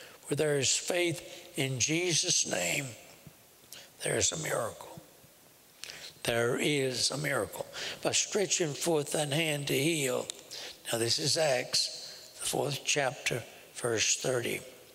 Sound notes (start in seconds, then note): none